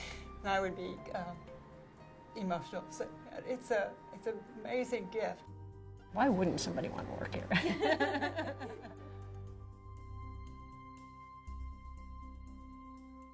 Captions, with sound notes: and I would be emotional saying that. It's an amazing gift. Why wouldn't somebody wanna work here? (laughs) (slow music)